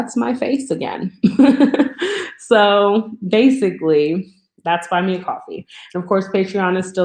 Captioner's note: laughs